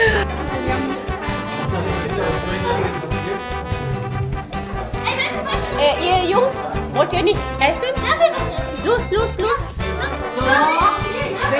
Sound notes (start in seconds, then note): 0.0 laugh; 5.7 speaking German; 10.5 laugh; 10.5 speaking German